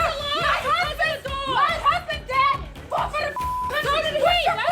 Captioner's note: beep